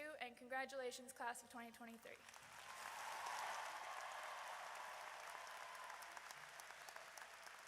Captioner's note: audience applauds; audience cheers